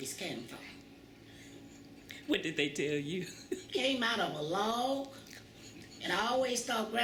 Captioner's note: laughs